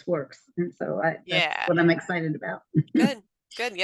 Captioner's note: giggles